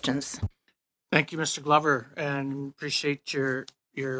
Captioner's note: speaking French